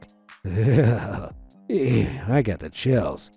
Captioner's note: narrator shivering